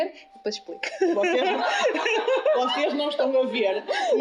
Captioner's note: laughs